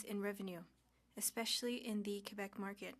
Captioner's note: speaking French